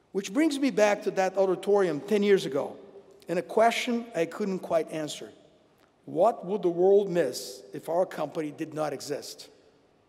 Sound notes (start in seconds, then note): none